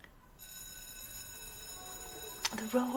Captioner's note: school bell ringing